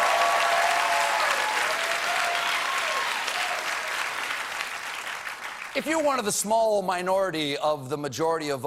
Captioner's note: applause